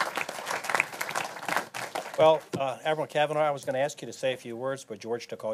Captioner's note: applause